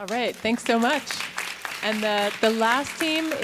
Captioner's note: audience applauding